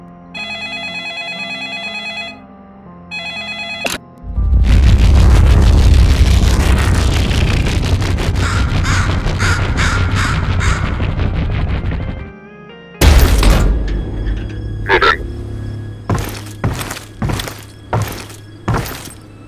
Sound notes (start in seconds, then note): 0.3 phone ringing; 3.2 phone gets picked up; 8.4 crow squawks